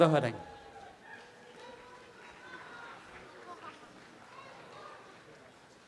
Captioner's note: audience applause